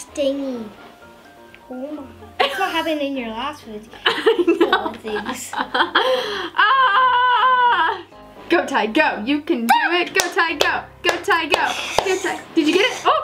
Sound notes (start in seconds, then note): 4.0 laughing